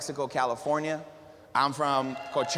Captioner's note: applause